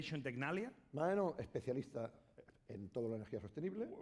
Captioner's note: speaking spanish